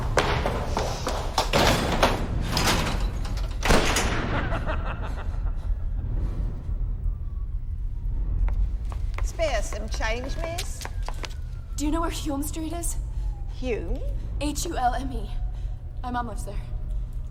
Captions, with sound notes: ( evil laughter ) SPARE US SOME CHANGE, MISS? DO YOU KNOW WHERE HULME STREET IS? - HULME? - H-U-L-M-E. MY MOM LIVES THERE.